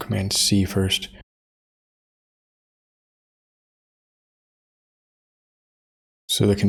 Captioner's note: blank Audio